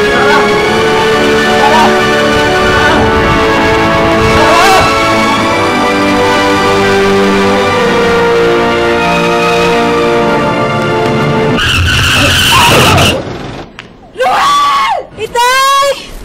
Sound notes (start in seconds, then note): 11.3 tires screeching